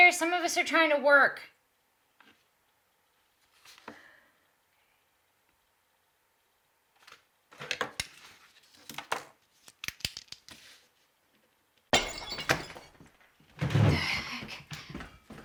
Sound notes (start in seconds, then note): 11.9 glass breaks